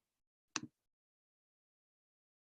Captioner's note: click